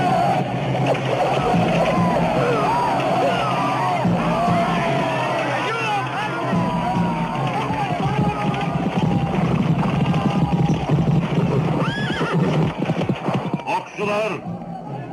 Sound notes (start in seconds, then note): 1.7 soldiers grunting; 11.3 horse whinnying